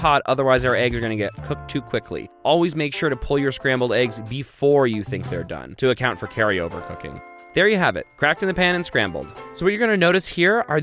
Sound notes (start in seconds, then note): 7.1 dings